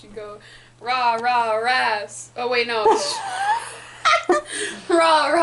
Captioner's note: laughter